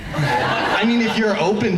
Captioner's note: laughing